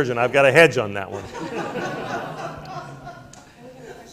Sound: laughter

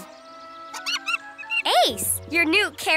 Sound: monkey chirps

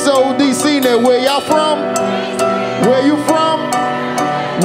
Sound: audience shouting

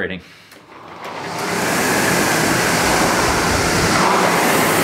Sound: machine hums

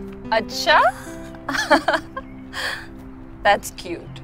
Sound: laughs

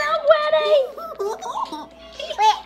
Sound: giggling

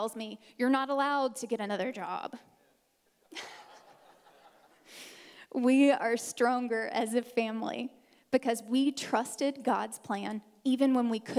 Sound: audience laughing

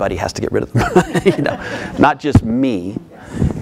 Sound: audience and speaker laughing

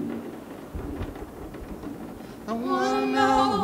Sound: thunder booming

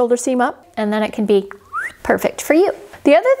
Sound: whistling

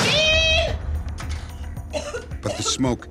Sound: coughing

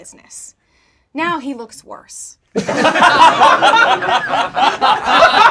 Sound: laughing

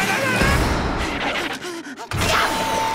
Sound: panting

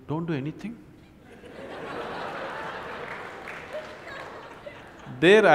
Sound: laughter

